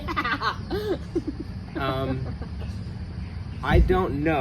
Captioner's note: laughs